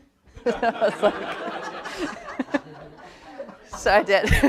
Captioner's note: everyone chuckles